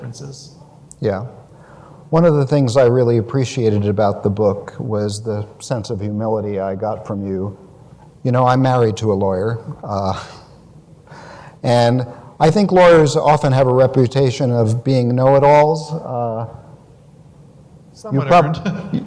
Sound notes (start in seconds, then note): 10.5 laughs